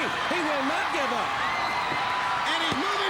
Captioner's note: crowd cheering